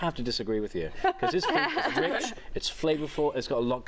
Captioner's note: laughter